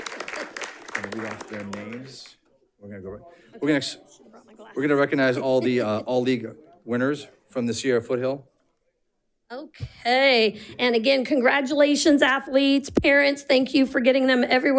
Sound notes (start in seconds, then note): 5.3 chuckles